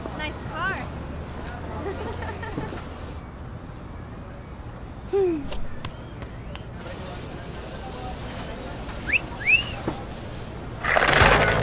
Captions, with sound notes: “Nice car.” Umm…Chico? (sexy whistle)